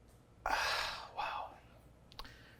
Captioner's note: sighs